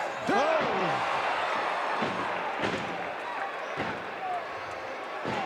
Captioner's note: wrestlers thudding